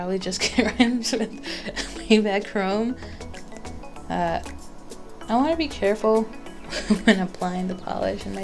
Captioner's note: laughs